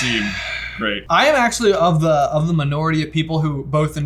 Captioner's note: sighing